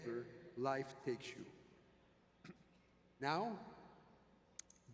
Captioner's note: clears throat